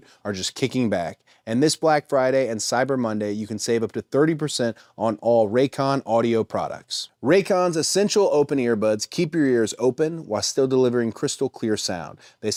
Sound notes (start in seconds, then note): none